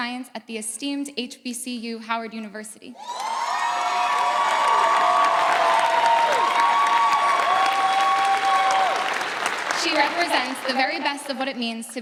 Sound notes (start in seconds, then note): 3.4 audience cheering; 6.4 audience applauding